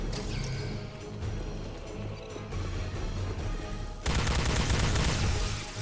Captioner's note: gun firing